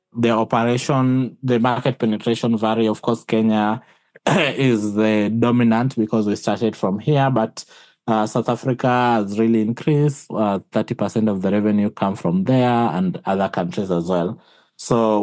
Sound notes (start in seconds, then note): 4.2 cough